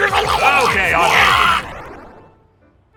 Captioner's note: unholier gargling